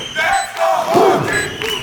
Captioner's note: applause